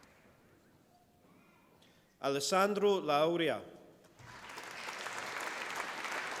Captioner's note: applause